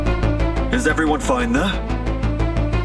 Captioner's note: Angad Over Call